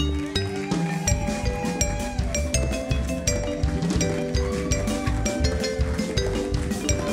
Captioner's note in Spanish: Aplausos